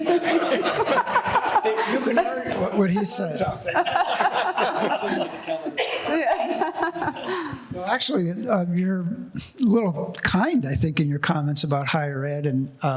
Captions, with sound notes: (laughing) You can learn something. What he said. (laughing) No, actually, you're a little kind I think in your comments about higher ed